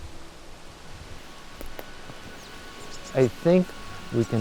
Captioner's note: wind sighing and bird chirping